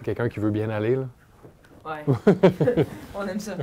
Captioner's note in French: rire